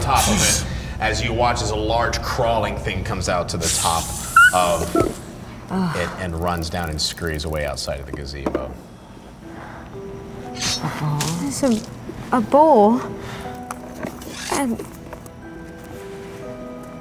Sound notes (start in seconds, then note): 4.0 hissing; 4.0 squeaking; 10.0 loud splattering